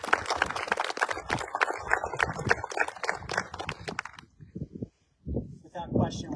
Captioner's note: applause